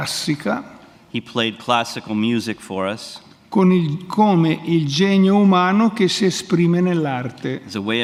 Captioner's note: speaks in Italian; speaks in Italian